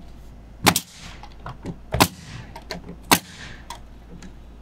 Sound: nail gun bangs

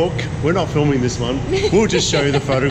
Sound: laughing

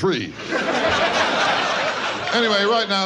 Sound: audience laughs

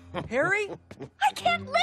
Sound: laughing

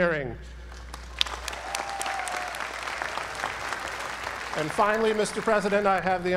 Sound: applause

